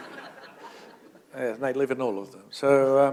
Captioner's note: laughter